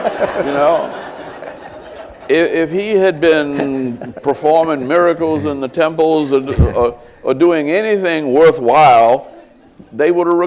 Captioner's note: laughter